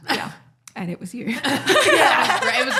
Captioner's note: both laughing